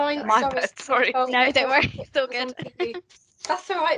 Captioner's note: chuckles